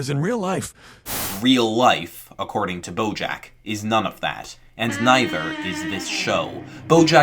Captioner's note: voiceover